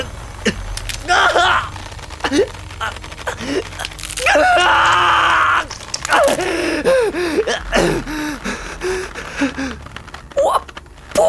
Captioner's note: screams of pain